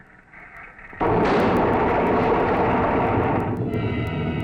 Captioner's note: engine explodes; suspenseful music